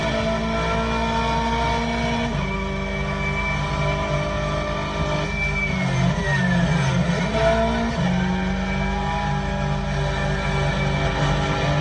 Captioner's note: engine Noise